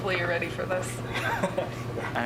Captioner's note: laughter